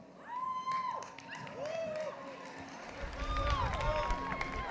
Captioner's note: applause